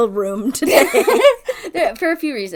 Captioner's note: laughs